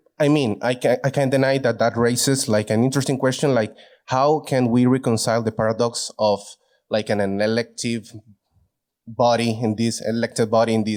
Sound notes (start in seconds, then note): none